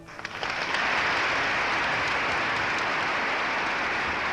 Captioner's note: congress applauding